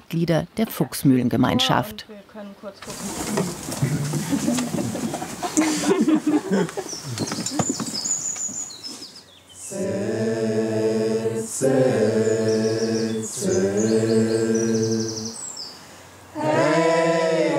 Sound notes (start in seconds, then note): 3.8 laughter and Singing